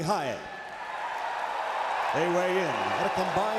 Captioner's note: crowd cheering